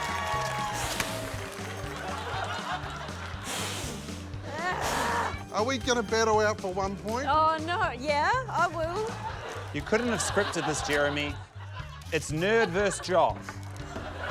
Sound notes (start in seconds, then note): 0.8 blows air; 1.9 laughter; 4.6 groans in frustration; 9.0 laughter